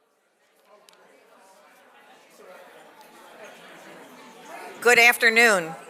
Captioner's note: audience chattering